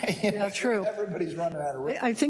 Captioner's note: laugh